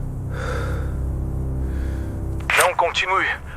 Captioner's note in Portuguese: suspirando